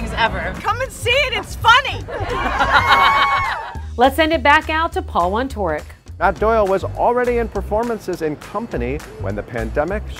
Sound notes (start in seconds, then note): 1.8 laughter/cheering